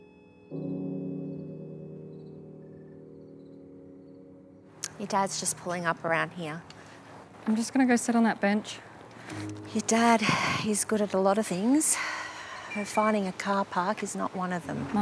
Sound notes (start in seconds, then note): 0.3 birds chirping; 10.2 sighs